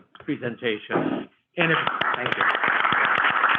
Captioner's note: applause